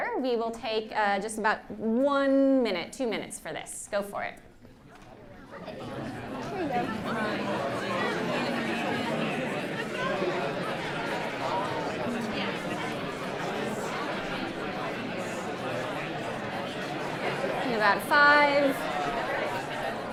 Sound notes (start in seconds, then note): 4.4 indistinct chatter